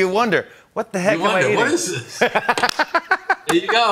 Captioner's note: both laugh